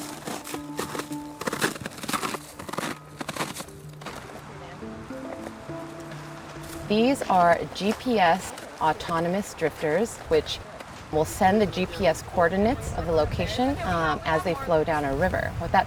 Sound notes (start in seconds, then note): 1.0 boots crunch away over the ice